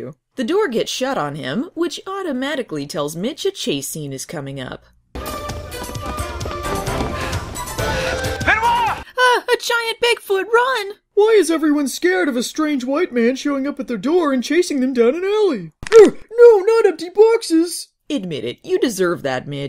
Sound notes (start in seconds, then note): 15.8 bone crackle